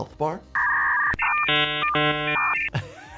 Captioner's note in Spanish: Sonido de internet viejito; riendo